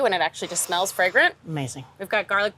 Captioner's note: inhales deeply